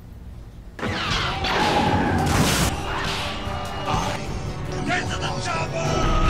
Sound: lasers, explosions; kung-fu punches

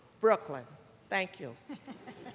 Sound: laughter

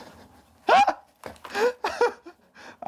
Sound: Dud laughs

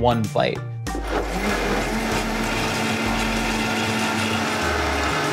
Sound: blender whirring

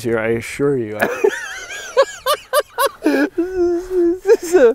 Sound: laughing again

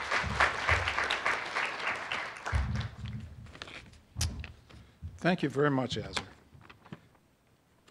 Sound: applause

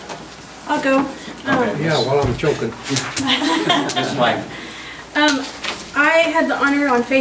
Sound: overlapping chattering

